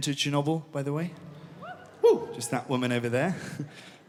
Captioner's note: whoop from audience